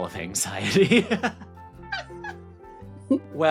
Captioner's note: ridiculous Laughter From Both Of These Goons